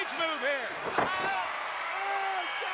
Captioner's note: Flair screams